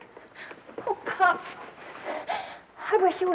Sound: crying

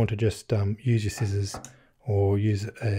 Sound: none

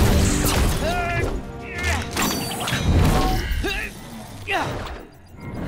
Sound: grunting

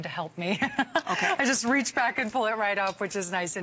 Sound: laughter

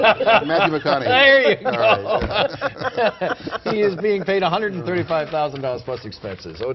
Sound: laughter

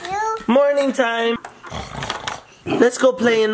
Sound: oinking

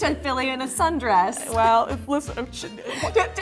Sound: stuttering

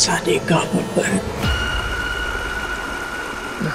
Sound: water gushing

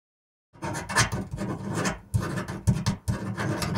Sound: pen scribbling

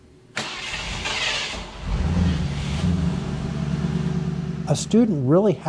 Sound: car Starting

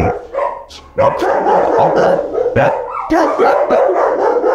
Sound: dogs barking

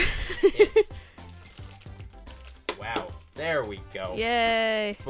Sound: laughs

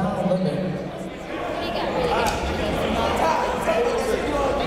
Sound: chatter

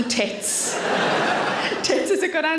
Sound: audience laughs

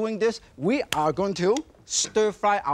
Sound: hands tap

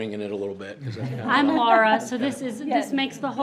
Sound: group laughs

